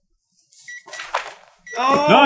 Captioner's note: gentle beeping